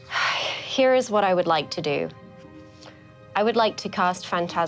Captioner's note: sighs